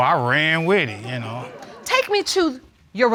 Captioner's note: audience laughing